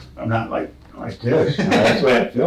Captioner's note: laughs